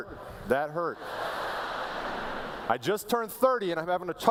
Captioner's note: laughter